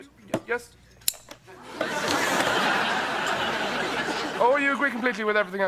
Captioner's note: audience laughing